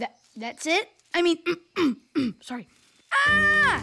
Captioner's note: clears throat